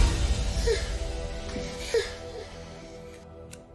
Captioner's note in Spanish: Sollozos